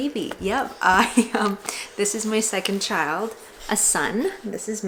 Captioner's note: laughs